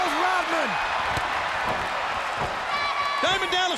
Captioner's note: audience cheers